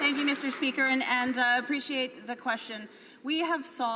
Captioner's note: some Applause